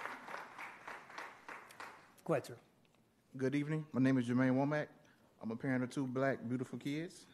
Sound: applause

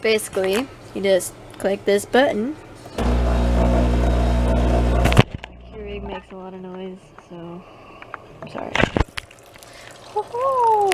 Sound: whirring sounds

